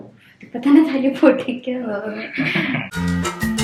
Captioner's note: sarcastically